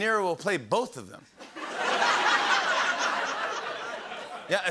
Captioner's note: laughter